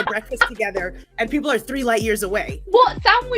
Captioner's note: laughs